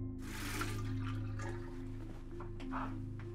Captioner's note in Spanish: agua corriendo